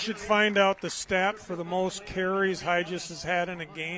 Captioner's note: applause